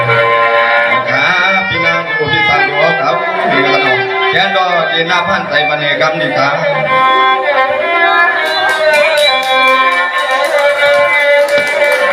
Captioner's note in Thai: ปรบมือ